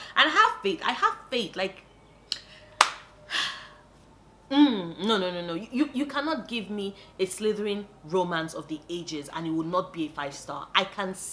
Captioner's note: sigh